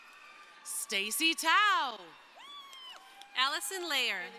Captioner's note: crowd cheering